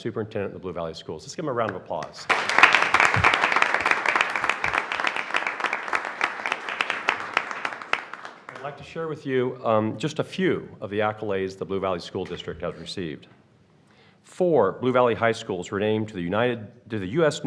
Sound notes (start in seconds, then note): 2.2 applause